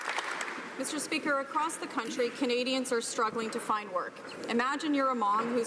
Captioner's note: some Applause